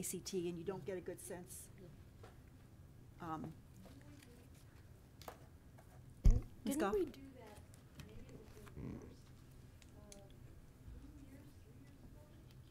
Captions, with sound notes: and you don't get a good sense. (woman speaking away from microphone)